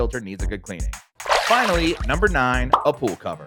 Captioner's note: water splashing